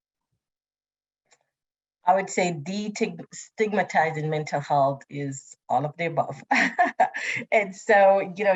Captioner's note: laughs